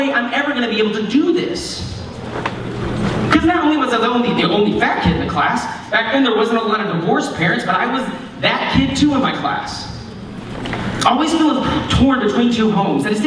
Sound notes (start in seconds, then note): none